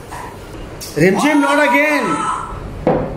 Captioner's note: ohhhhh